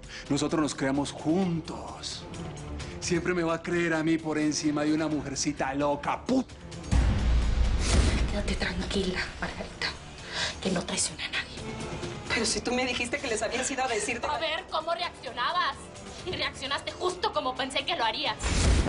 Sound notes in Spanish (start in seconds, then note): none